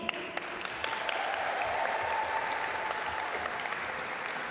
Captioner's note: audience applaud